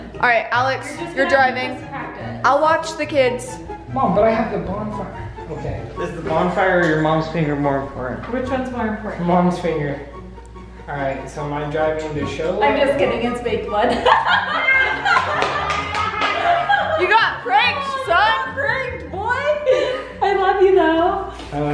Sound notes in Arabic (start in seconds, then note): 13.9 الجميع يضحكون